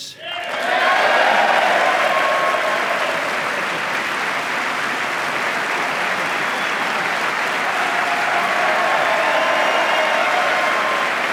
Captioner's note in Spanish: aplauso